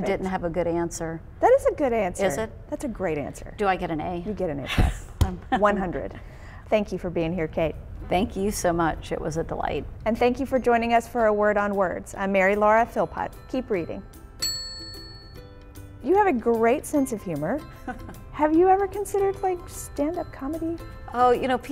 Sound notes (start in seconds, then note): 14.3 bell dings